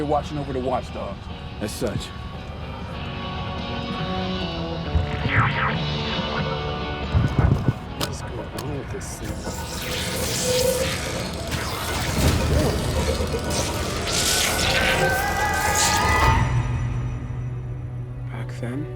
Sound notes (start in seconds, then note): 4.8 energetic music continues; 5.0 device squealing; 10.6 eerie music; 17.2 gentle music